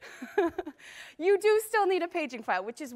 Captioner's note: laughter